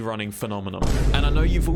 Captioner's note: boom